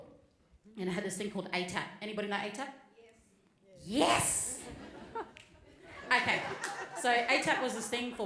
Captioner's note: audience says yes